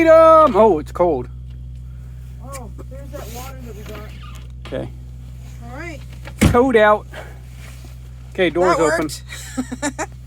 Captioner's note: laughs